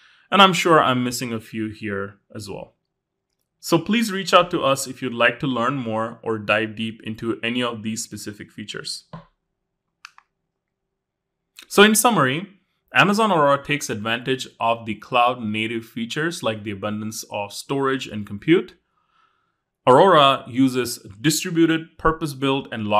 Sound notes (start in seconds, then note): 9.1 accessory tapping; 10.0 remote clicking